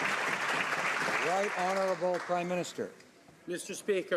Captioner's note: some Applause